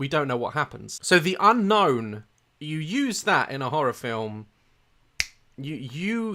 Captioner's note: snaps